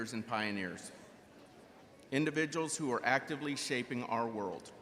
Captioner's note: none